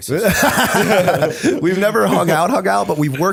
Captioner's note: laughter